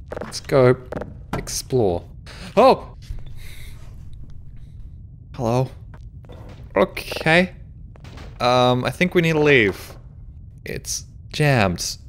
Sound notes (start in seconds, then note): none